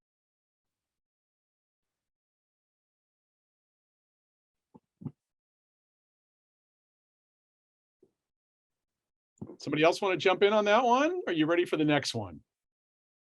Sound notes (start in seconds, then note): 1.6 silence